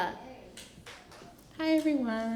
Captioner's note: applause